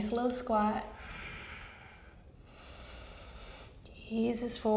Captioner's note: smooth breathing